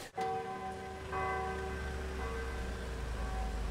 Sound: bells tolling

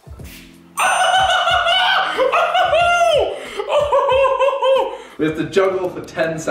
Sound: shouting and screaming

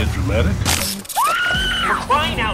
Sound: screams

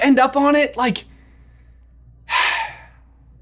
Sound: sighs

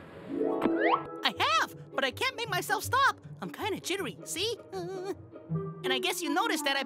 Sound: hu hu hu

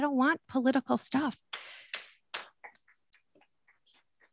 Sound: clapping

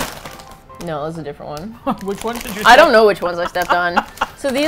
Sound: laughs

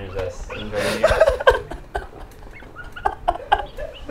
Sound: laughs

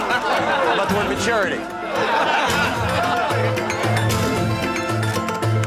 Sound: laughter

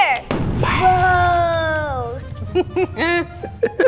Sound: poof; laughs

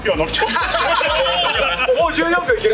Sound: laughs

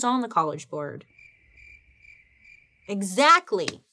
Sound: crickets chirping

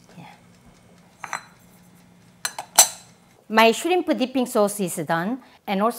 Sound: none

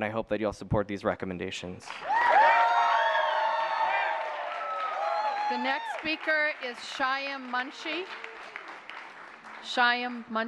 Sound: applause

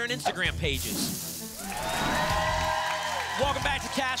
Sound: audience applause

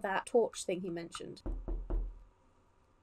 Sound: knocking sound

